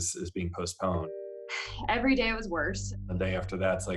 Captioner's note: sighs